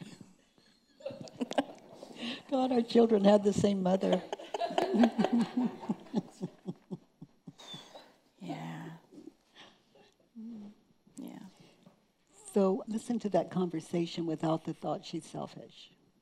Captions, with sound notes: (laughing) - God, our children had the same mother. (laughing) - Yeah. Yeah. - So listen to that conversation without the thought she's selfish.